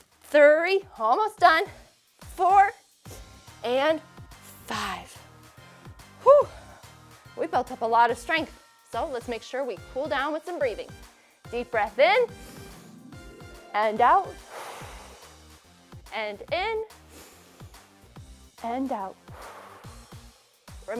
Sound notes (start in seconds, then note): 14.3 exhales; 14.4 inhales; 17.2 inhales; 19.2 exhales